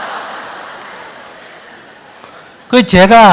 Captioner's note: audience Laughter